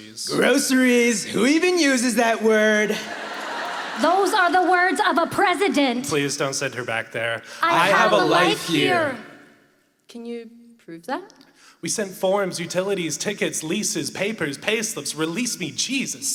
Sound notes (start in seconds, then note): 2.8 laughter